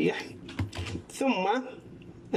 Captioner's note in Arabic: صوت لوحة المفاتيح